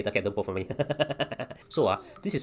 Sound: nervous laughter

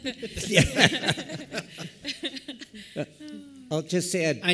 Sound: panel laughing

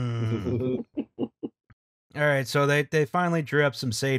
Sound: laughter

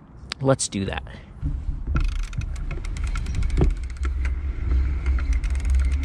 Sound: bike motor whirring

